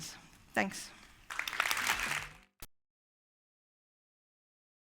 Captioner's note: applause